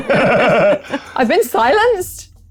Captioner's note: laughs